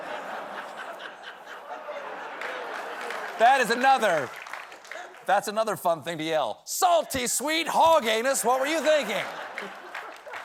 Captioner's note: laughter